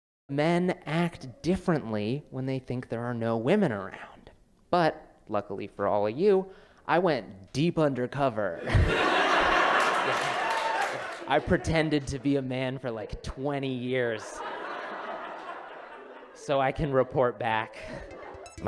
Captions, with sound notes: Men act differently when they think there are no women around. But, luckily for all of you, I went deep undercover. [laughter, clapping] I pretended to be a man for like 20 years [laughter] so I can report back.